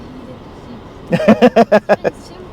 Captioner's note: laughs